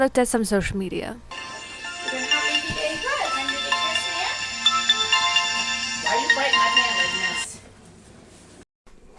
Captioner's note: phone Alarm